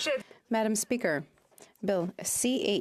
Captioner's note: speaking in French